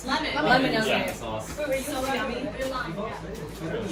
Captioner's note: general chatter